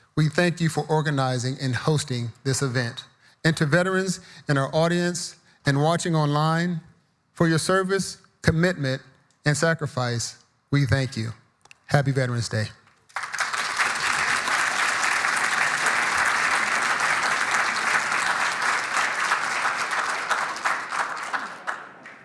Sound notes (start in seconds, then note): 13.0 audience applauding